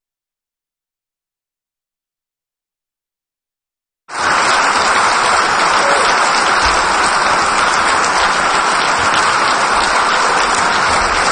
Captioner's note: applause